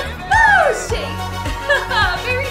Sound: laughs

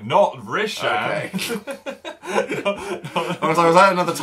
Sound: laugh

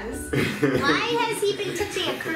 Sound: laughing

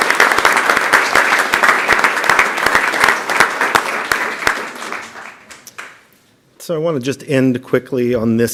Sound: applause

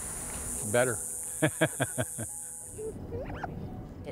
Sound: laughing

